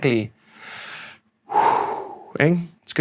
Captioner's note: exhales